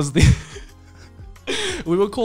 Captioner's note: laughing